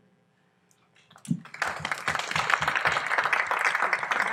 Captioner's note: applause